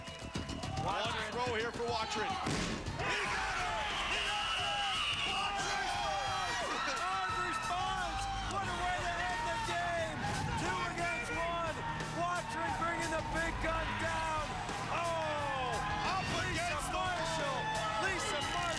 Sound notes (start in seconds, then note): 3.9 whistle blows; 6.5 cheers and applause